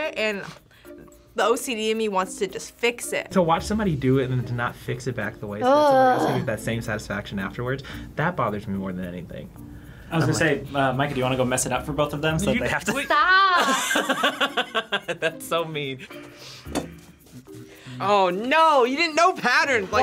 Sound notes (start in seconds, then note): 12.9 laughs